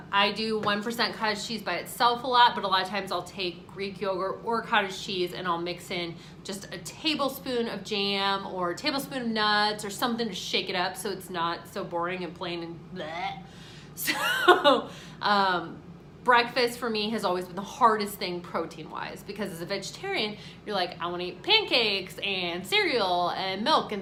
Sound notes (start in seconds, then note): 14.6 laughing